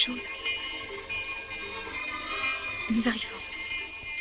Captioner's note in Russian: звон колокольчиков